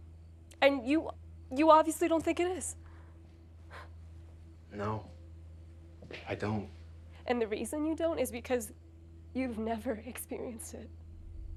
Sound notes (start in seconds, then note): 3.5 Lucy scoffs; 11.4 crickets chirping; 11.4 tense music